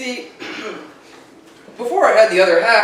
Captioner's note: clears throat